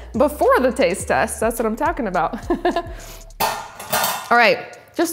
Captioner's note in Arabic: يضحك